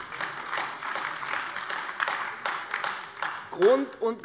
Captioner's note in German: Beifall AfD